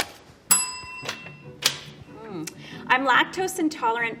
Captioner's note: bell ringing